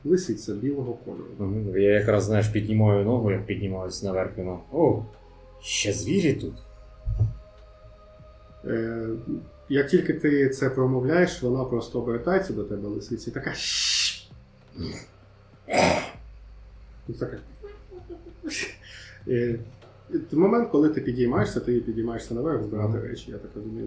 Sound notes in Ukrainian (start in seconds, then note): 13.5 шипить; 15.7 гарчить